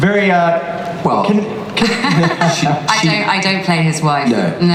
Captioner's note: laughs